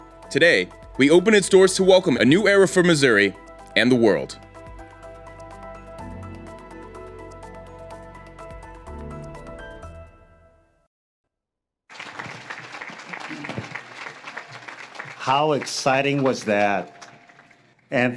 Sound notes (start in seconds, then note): 4.7 upbeat music; 11.9 audience claps